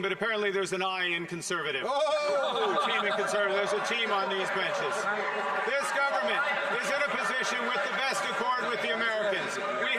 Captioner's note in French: voix de l'interprète